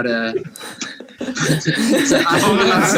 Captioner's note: laughs